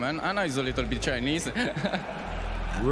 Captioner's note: laughs